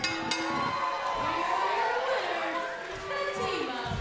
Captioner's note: bell ringing